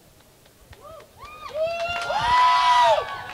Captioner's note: cheering